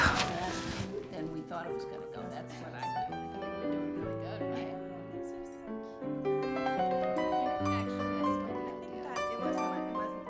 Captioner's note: chattering